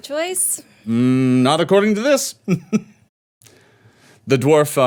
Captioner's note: laughing